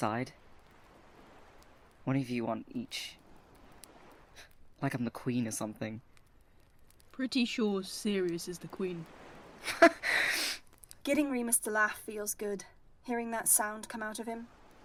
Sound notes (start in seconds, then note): 9.6 Remus laughs